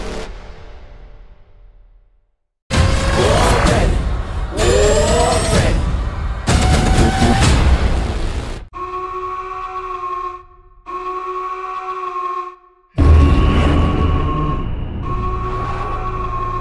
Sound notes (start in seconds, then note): 2.7 intense hip hop music; 8.6 alarm blaring; 13.0 explosion booms